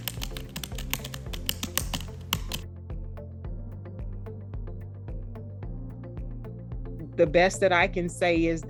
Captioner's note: typing